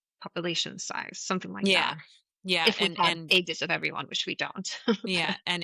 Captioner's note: laughs